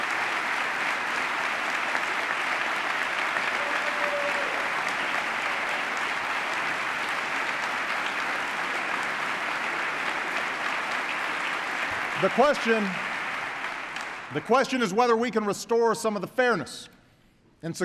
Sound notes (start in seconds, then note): 3.2 applause